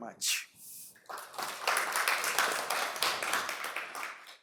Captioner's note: applause